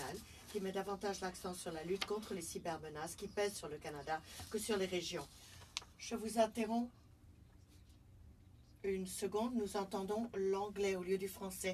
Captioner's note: speaking French